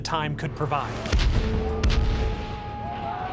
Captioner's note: bang